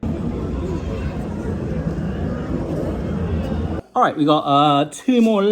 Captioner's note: people murmuring